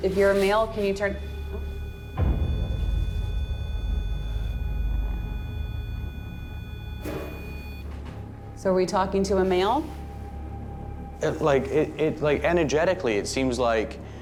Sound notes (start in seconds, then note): 0.7 beeping; 4.2 ominous music